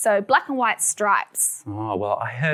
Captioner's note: none